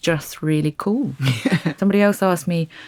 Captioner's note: laughs